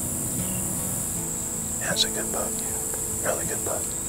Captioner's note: whispering